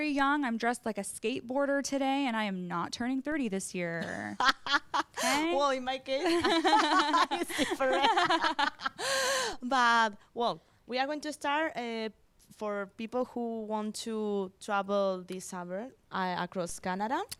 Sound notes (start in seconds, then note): 6.3 laugh